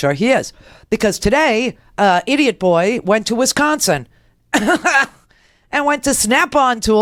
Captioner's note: laughs